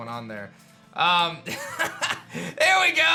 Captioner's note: chuckles